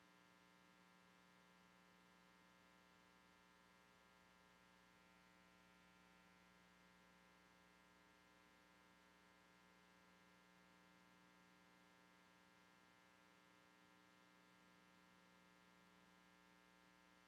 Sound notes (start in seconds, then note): none